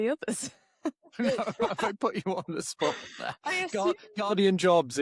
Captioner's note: laughs